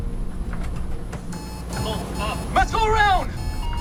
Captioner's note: warning system beeping; automated Voice